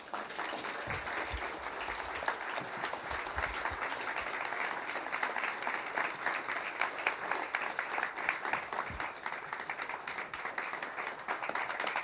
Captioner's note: applause